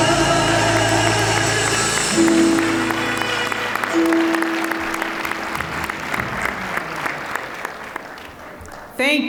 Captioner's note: applause